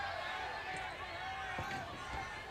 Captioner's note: crowd chatter